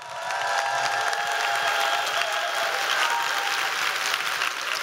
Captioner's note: applause